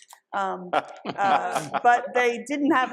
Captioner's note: laughing